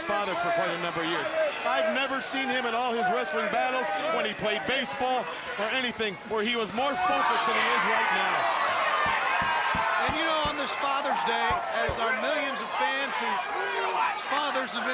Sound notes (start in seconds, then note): 8.6 crowd cheering